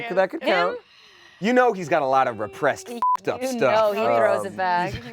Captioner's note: beep